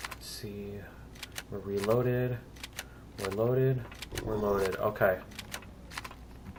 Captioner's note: reloading; weapons clicking